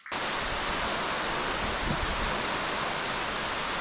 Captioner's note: rushing water